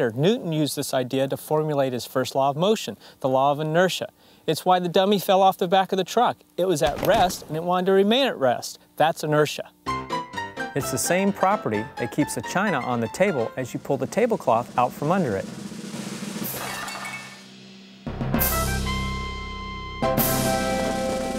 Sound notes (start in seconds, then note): 10.0 upbeat piano music; 16.3 dishes clinking; 17.7 triumphant music